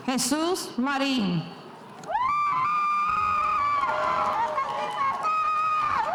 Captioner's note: spectators cheering